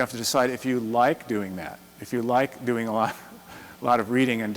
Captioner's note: chuckles